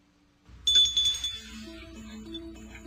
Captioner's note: ringing